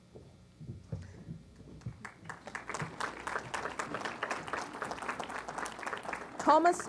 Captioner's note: applause